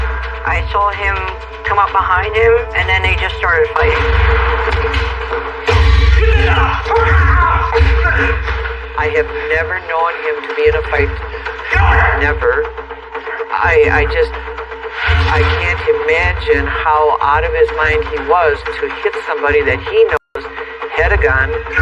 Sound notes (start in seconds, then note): 7.6 botgrunting